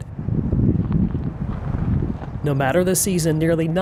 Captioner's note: wind blows